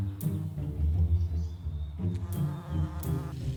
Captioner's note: bumblebee friend buzz